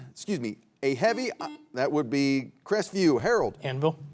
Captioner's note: buzzer beeps